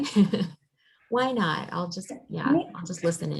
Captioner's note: laughing